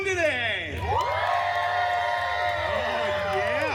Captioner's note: guests cheering and applauding